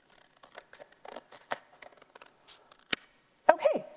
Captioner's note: cutting